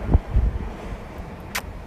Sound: small kiss

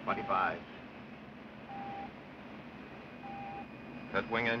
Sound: beeping Continues

